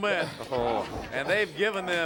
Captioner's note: crowd chatter